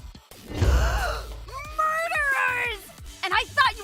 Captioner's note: gasp